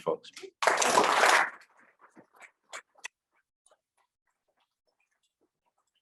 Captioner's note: audience applauding loudly